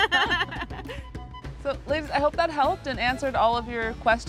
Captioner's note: laughs